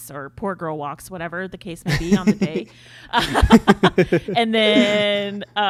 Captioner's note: laughs